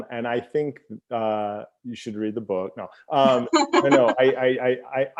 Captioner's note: laughs